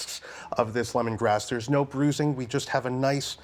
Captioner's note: none